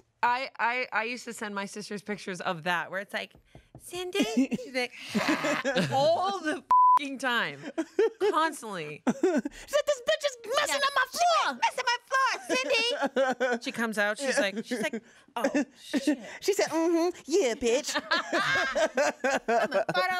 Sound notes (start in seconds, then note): 5.2 groans; 6.7 beep; 17.9 everyone laughs